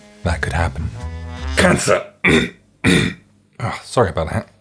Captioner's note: cough